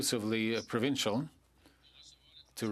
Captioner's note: speaking French